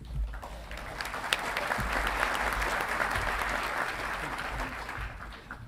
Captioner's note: audience clapping